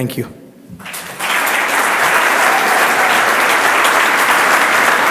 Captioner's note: audience applauds